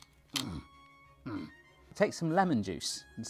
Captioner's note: grunts